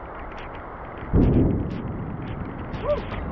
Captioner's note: loud boom of thunder